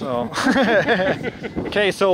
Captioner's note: chuckling